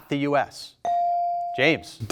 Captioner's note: buzzer dings